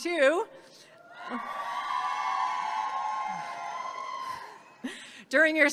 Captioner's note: audience cheering